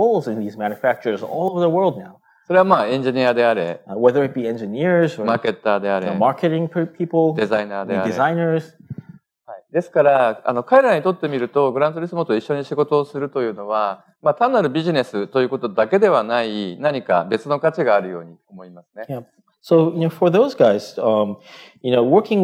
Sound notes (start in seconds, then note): 2.9 speaking japanese; 5.6 speaking japanese; 7.6 speaking japanese; 14.3 speaking japanese